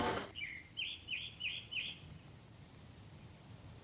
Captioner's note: birds chirping